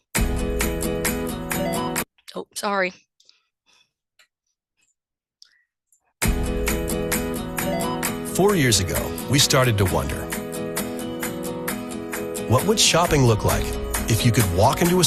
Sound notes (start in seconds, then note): 0.1 upbeat music; 6.4 upbeat music; 8.4 voiceover